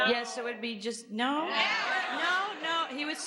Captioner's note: audience shouts